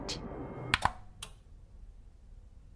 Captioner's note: light switch click